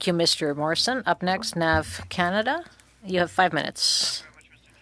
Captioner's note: speaking French